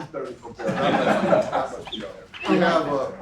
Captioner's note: laugh